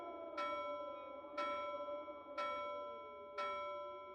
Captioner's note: clock chiming